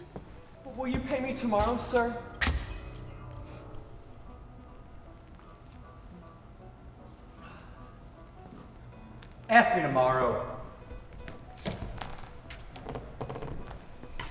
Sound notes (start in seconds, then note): none